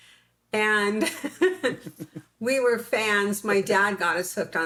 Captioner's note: laughs